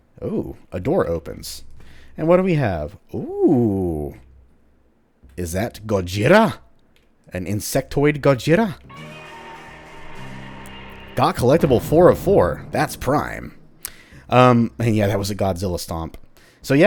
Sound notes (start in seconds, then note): 8.9 riff plays, roars; 11.4 stomp